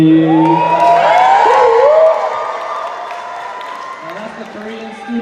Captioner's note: cheers